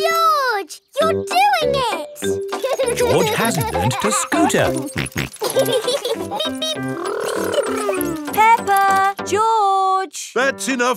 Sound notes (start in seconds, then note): 2.6 george laughing; 5.8 both laughing